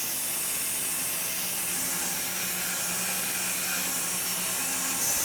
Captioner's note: saw blade whirring